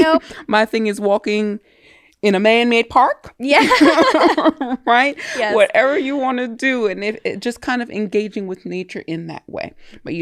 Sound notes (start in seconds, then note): 3.6 both laughing